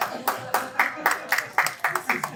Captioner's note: applause